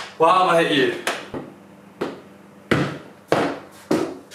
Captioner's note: ball thudding